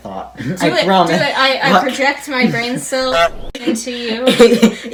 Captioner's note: honk